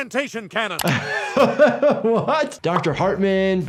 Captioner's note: laughing